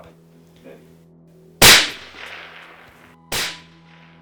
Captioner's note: gun fires